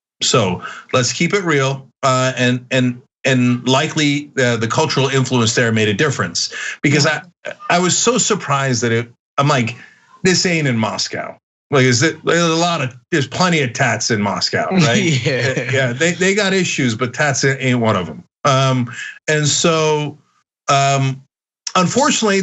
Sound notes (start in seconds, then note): 14.7 laugh